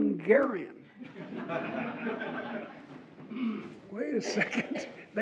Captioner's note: audience laughs